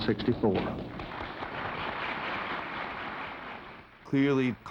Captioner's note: applause